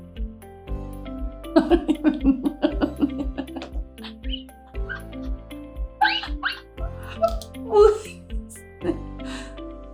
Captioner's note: laughter